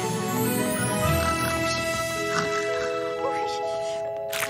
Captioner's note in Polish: chrapie